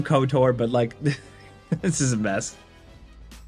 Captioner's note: laughing